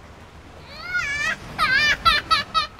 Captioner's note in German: weint